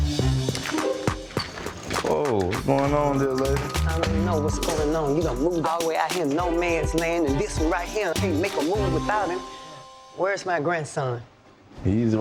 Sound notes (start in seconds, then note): 0.0 tense string music; 3.2 walker clicking